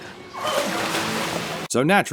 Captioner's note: splashing water, girls laughing